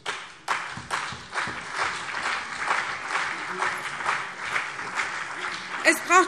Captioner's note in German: Beifall CDU und BÜNDNIS 90/DIE GRÜNEN